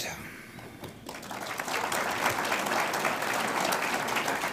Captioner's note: audience applauds